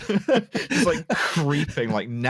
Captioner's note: laughter